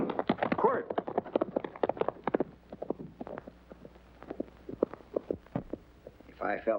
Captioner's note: hooves racing away